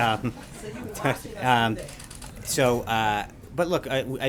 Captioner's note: laughter